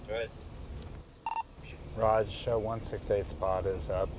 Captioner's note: radio beeping